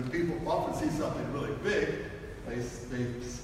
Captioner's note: none